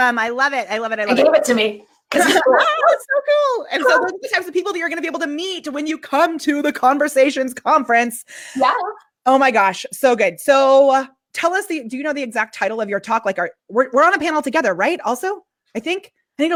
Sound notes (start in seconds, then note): 2.1 coughs